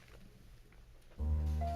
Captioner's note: gavel bangs; gentle music